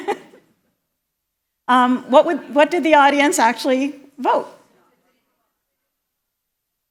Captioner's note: laughter